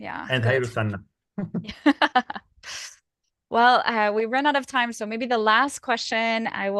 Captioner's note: laughter